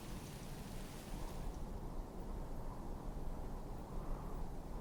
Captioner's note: wind whistling